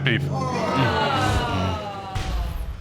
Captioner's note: audience groans